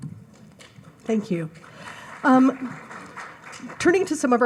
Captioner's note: audience applauds